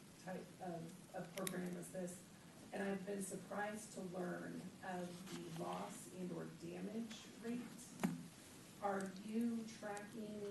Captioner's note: off mic